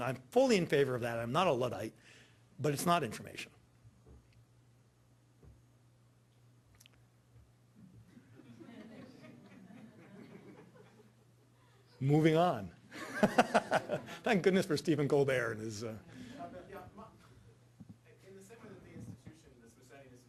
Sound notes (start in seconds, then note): 8.0 audience murmurs and laughs; 12.9 laughing